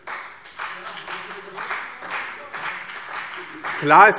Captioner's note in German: Beifall CDU